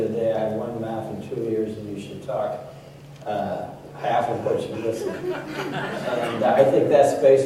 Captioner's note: laughter